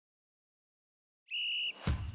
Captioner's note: whistle